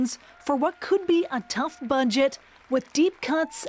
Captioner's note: applause